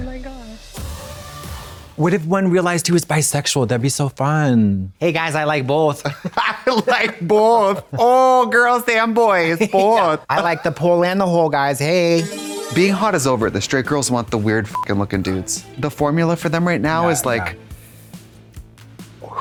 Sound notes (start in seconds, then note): 12.2 bright chime; 14.7 beep